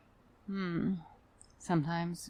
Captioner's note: frustrated Sigh